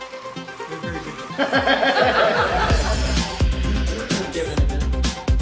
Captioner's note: laughter